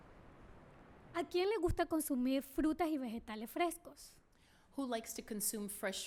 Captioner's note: speaking spanish